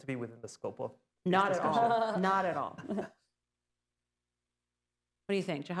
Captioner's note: laughter